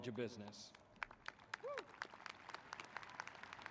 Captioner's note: clapping